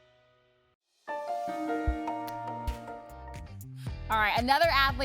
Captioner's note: soft calm sound effect